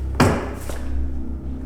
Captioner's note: table hits